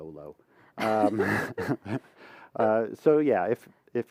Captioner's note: laughter